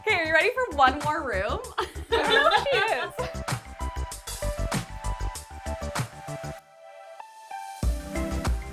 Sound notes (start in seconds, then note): 1.7 laughs; 4.5 upbeat music